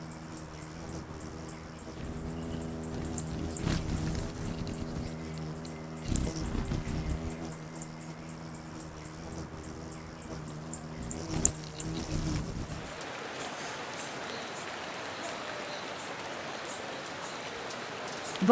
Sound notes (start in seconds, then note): 0.2 bird's wing flapping; 0.2 birds chirping; 8.8 bird's wing flapping; 8.8 birds chirping; 12.6 river flowing; 13.6 birds chirping